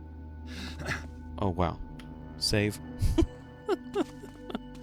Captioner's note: laughs